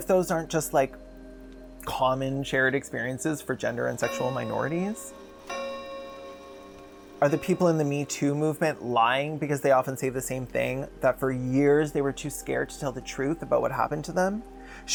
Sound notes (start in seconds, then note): 5.4 clock chimes